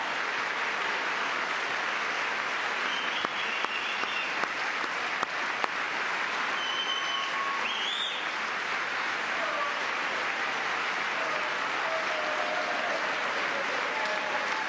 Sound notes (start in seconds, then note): 4.1 cheering; 5.8 applause; 11.3 cheering; 13.0 applause